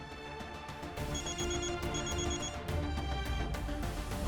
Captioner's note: phone rings